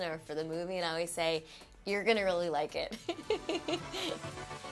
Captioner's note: laughing